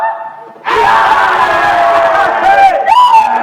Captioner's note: crowd laughing